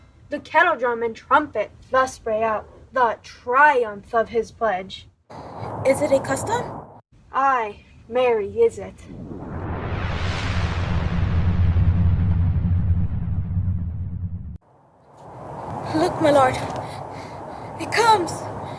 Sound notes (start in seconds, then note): 5.3 wind blowing